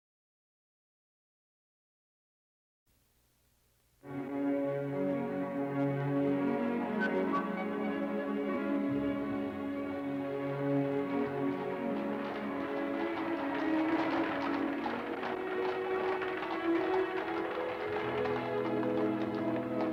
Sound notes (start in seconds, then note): 4.1 light orchestral music; 12.0 cart rattling; 13.4 horses clomping